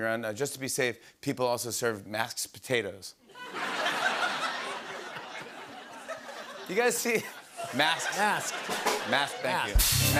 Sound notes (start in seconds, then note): 3.3 laughter; 7.6 rimshot